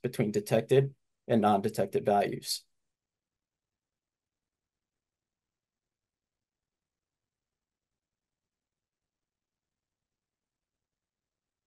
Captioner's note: silence